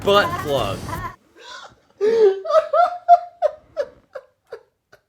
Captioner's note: laughs